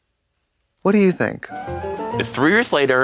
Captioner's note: bright chime